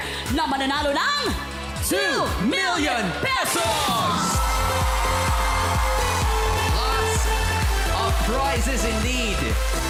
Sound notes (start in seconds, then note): 3.5 audience cheering; 4.6 upbeat music playing